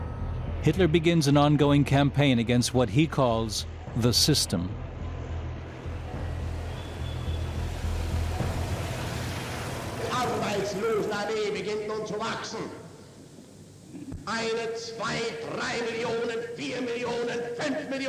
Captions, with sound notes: Hitler begins an ongoing campaign against what he calls "the system." [Hitler speaking German]